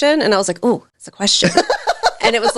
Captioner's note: laughing